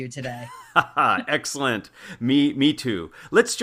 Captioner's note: laugh